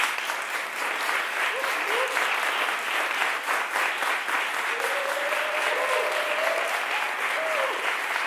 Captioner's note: audience applauds